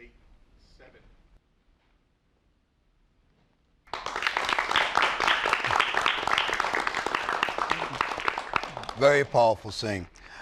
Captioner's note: applause